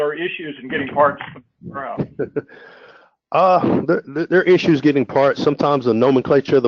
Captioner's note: laugh